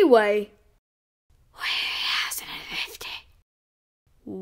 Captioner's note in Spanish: Susurro